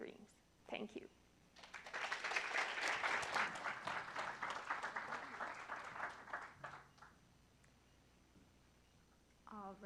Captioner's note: applause